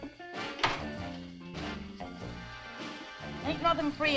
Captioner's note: door rattles